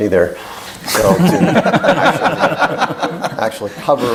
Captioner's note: laughter